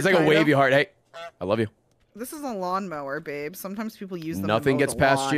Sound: honks

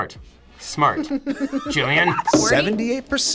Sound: laughs

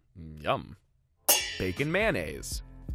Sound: pans clanging

